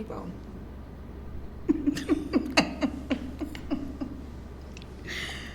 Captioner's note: laughs